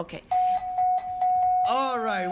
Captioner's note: dings